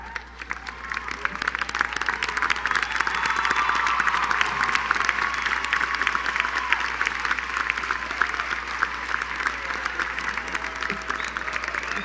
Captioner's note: applause